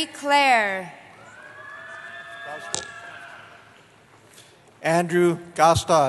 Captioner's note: cheering